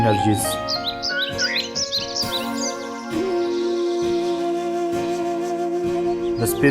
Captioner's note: birds chirping; moves into gentle music